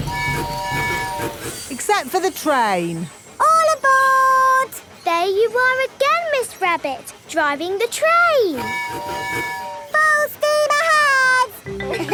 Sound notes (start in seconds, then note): 0.0 train tooting; 8.5 tooting